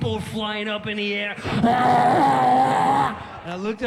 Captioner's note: roars